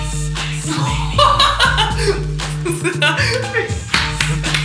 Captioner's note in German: lacht